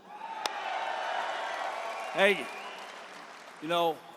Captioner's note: applause